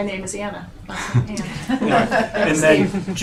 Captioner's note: laughing